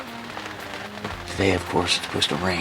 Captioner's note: rain hitting tarp